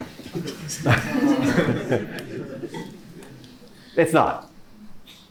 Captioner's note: laughter